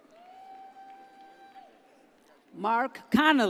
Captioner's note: audience cheers